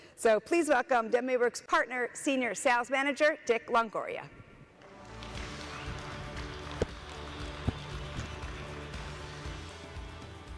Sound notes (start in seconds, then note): 4.8 audience applauding